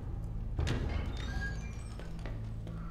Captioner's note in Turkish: Kapı açılma sesi